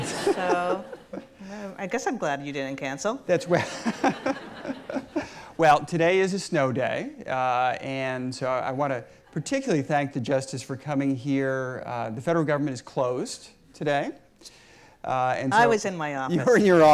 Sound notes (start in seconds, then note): 0.0 audience laughs; 3.6 laughs